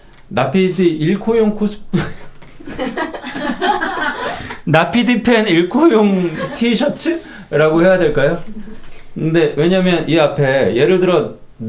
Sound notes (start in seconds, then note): 2.0 holding back laughter